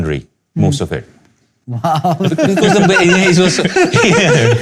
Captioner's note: laughter